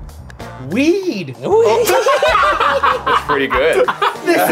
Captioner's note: all laughing